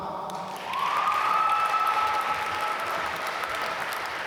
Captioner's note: applause